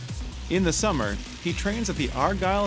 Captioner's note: voiceover